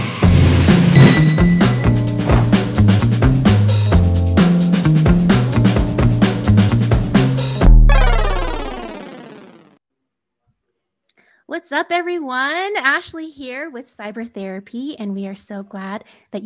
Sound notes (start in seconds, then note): 0.1 air whooshes; 0.9 metal dings